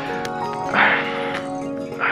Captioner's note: Aniket gasps